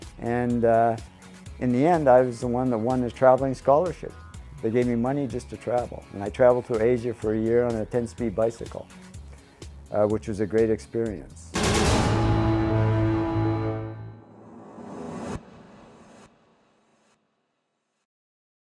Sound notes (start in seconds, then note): 11.5 musical flourish; 14.2 air whooshing